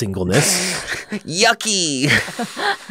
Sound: laughing

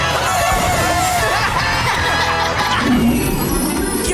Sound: laughing

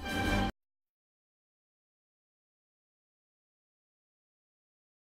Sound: silence

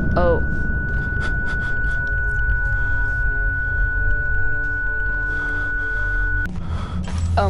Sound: loud tinnitus ringing

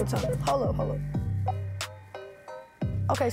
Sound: phone bleeping

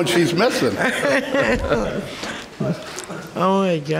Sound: laughter

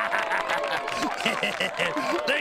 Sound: laughing

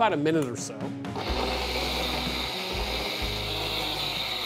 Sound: blender whirring; blender stops

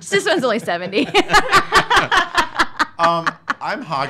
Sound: laughing

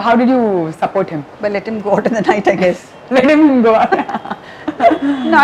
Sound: laughs

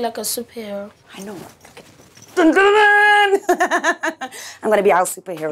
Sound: laughs

